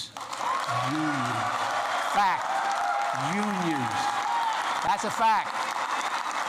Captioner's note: applause